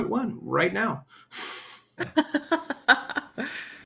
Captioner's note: chuckles